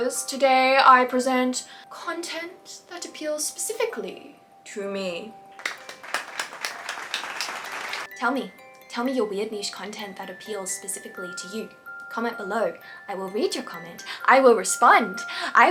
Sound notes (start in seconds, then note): 5.6 audience clapping